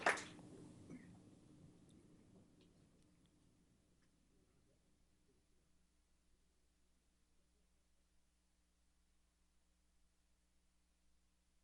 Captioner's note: applause